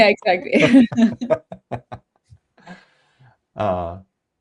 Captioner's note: laughing